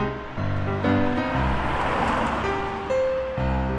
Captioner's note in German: Vorbeifahrendes Auto